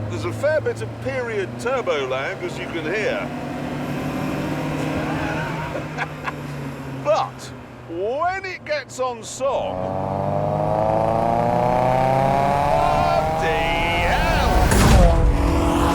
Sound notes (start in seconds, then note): 4.8 chuckles; 9.4 engine pitch increases